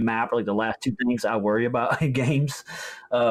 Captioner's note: laughs